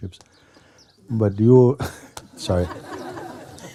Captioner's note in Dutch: gelach